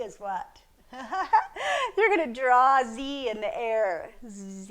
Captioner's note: laughs